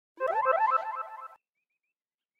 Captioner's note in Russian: звук появления